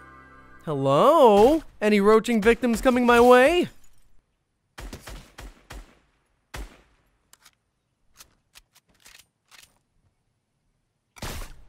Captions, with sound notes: Hello? Any roaching victims coming my way? (gunfire)